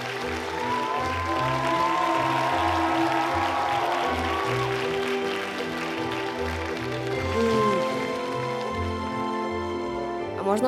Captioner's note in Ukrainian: оплески